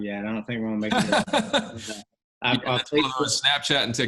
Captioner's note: laughs